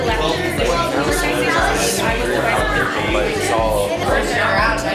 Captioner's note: excited chatter